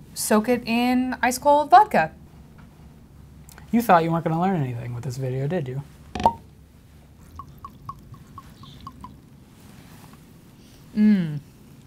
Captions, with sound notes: soak it in ice cold vodka. - You thought you weren't gonna learn anything with this video did you? (bottle cap popping) (liquid gurgling) - Mmm.